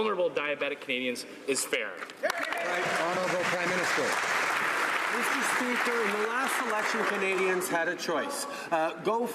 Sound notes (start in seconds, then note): 5.9 some Applause